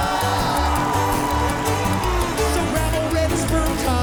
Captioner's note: spectators cheering